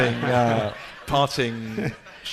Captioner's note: laughing